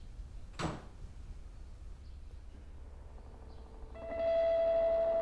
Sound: door bangs

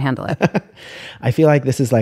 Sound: laughter

